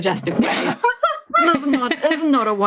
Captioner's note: laughs